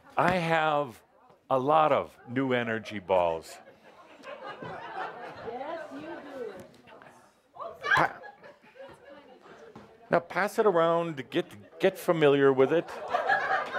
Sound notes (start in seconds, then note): 3.5 laughter as brings out three more balls